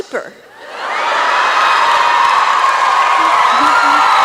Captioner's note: laughter